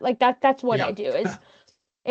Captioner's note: chuckling